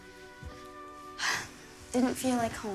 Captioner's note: sighs